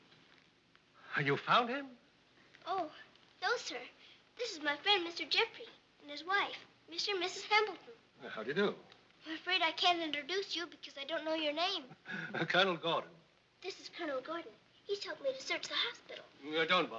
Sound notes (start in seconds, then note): 12.0 laughs